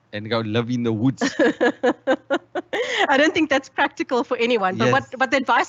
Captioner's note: laughs